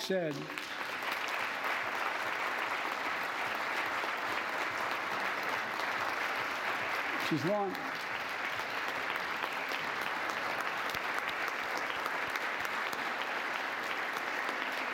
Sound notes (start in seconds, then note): 0.0 applause